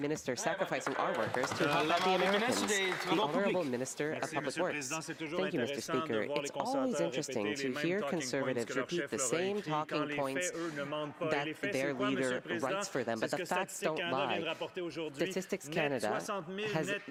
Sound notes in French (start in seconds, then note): 5.9 voix de l'interprète